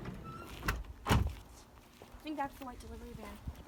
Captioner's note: doors clatter